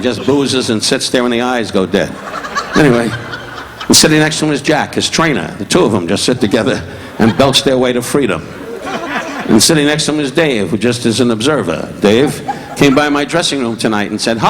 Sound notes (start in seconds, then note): 2.0 audience laughing